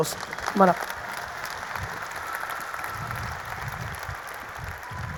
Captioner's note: audience applauding